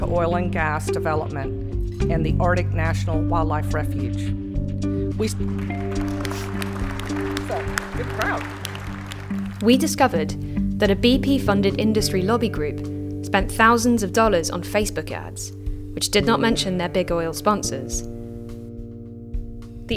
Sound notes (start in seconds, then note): 5.3 clapping